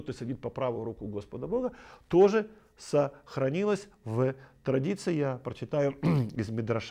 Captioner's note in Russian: откашливается